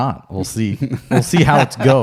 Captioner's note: laughs